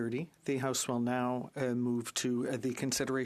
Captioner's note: speaking French